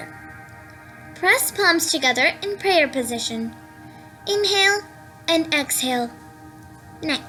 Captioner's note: inhale and exhale